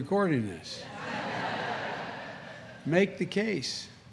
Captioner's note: laughter